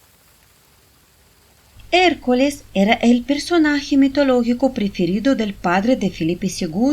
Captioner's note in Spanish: Sonido del Agua de la Fuente